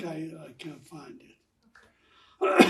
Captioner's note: coughing